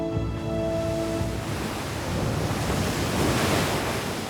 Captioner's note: waves crashing